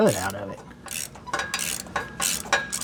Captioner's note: metal Clanking